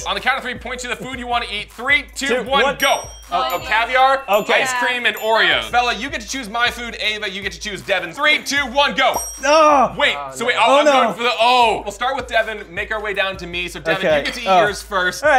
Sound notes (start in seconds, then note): 2.6 ding; 9.1 ding